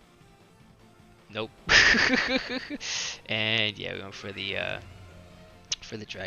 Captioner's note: laughs